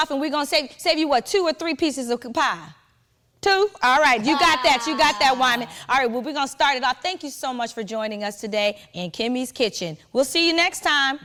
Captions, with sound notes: and we gonna save you what, two or three pieces of pie? Two, all right, you got that. (Wendy chuckling) You got that, Wyman. All right, we're gonna start it off. Thank you so much for joining us today in "Kimmie's Kitchen." We'll see you next time-